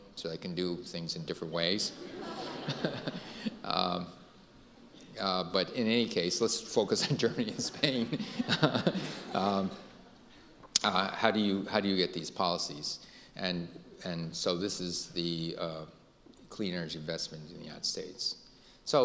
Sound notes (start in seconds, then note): 1.8 audience laughing; 2.2 Dr. Chu laughing; 7.0 Dr. Chu and audience laughing